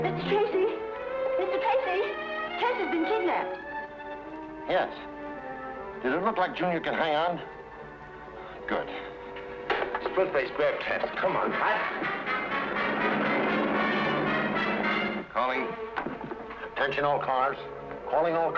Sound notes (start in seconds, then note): 12.0 pat; 13.0 suspenseful music